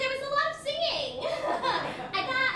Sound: laughter

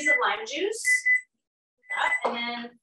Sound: timer beeping

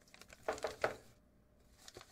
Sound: knocking

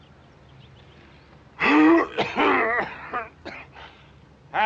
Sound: coughs

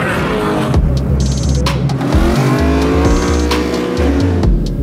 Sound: engine rev drowns out; engines revving

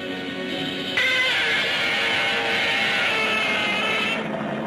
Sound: dramatic music; Gammera roars

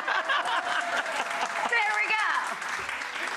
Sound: audience clapping; laughing

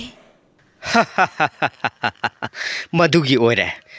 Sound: laughing

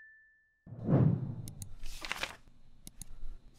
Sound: clicking and page turning sounds

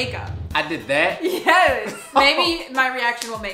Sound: laughs

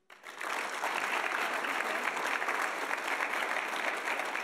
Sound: audience applauding

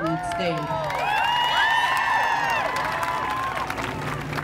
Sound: audience cheering

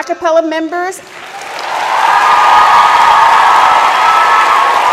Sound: audience claps

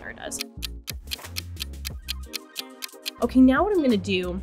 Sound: clock ticking

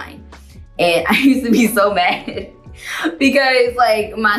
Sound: laughs

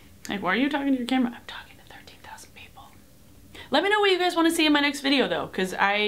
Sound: whispers

